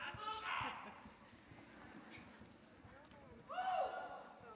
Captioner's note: audience member shouting